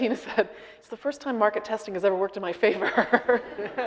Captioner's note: audience laughing; laughing